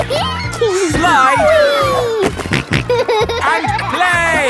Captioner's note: giggles; snorting